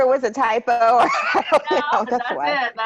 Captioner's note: laughter